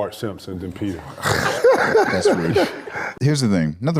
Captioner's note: laughs